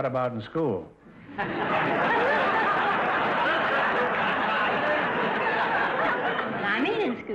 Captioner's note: audience laughter